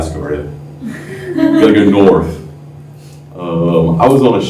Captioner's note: laughter